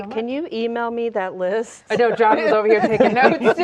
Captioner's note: laughing